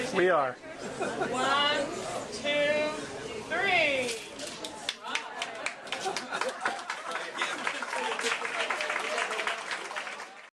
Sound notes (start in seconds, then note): 4.8 applause